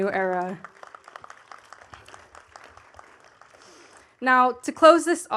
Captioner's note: attendees clapping